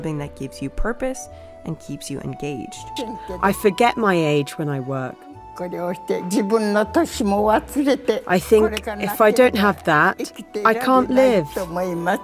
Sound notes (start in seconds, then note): 6.1 speaking in foreign language